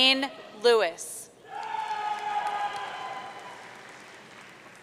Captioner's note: audience cheering